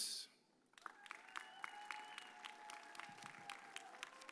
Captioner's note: audience cheers